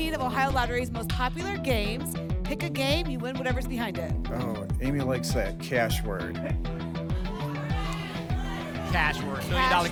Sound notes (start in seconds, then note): 7.2 audience shouting games